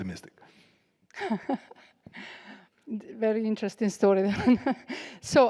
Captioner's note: laughs